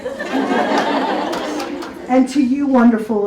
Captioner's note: audience laughs